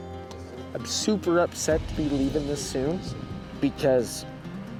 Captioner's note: tearfully